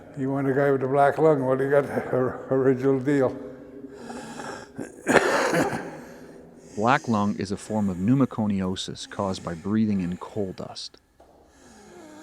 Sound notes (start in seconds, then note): 5.8 coughing